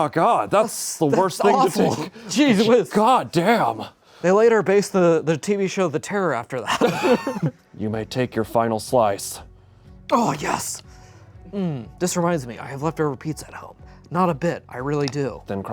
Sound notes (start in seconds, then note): 6.6 laughs